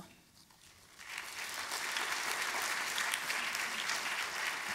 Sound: applause

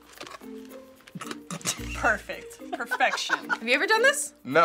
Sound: snickering

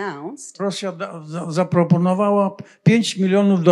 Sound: foreign language

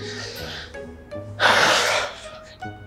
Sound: sighs

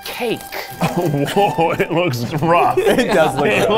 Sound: laughing

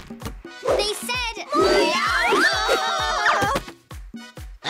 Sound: screaming

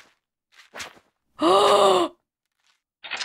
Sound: gasps

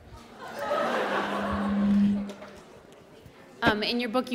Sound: laughter

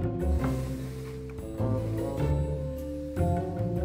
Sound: tray sliding

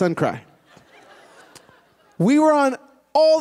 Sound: laughter

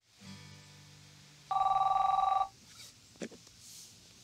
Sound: phone rings

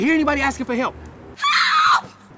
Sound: girl screaming for help

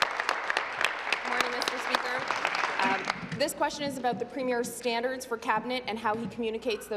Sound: applause

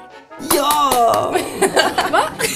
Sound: applause

